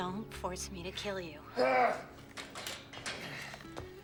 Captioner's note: grunting